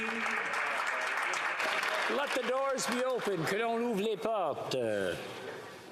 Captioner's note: applause